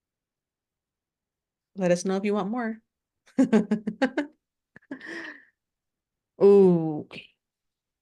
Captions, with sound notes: Let us know if you want more (laughs) Okay.